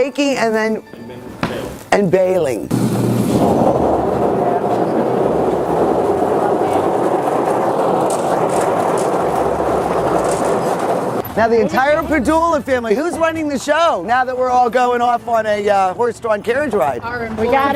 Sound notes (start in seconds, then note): 3.0 machine whirring